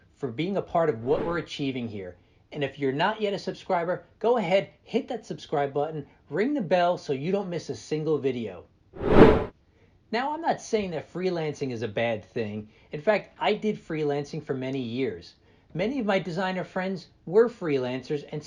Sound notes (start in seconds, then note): 9.0 air whooshing